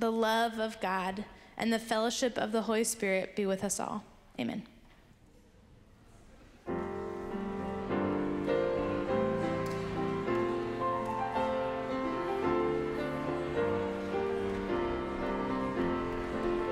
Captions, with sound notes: the love of God, and the fellowship of the Holy Spirit be with us all. Amen. (congregation chattering) (gentle piano music)